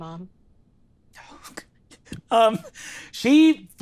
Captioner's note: imitates crying